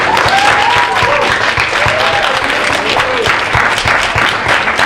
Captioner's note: audience applauding